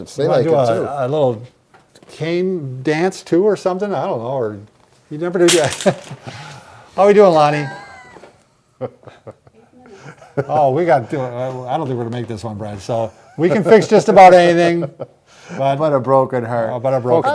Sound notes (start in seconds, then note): 5.4 dowel clatters; 9.1 chuckling